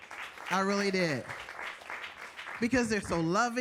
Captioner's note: audience applauding